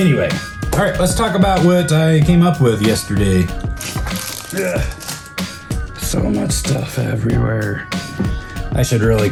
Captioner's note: grunt